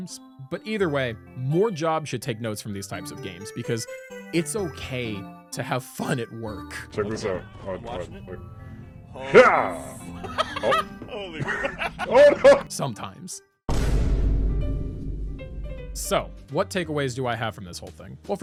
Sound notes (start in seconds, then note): 11.2 laughter